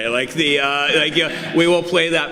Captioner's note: audience laughs